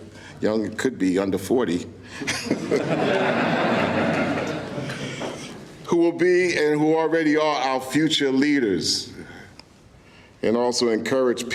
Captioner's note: laughter